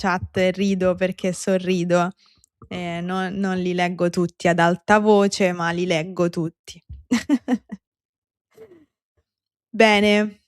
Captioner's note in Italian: risate